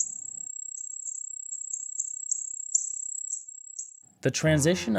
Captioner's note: birds chirping